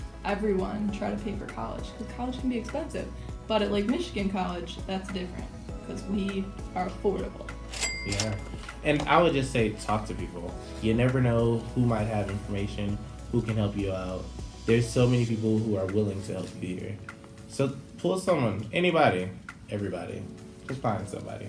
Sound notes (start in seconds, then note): 7.7 cash register ring sound